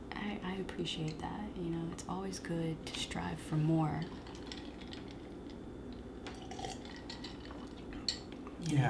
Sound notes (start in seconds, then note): 4.6 slurping tea